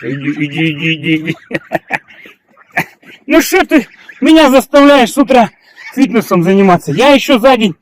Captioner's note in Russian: смех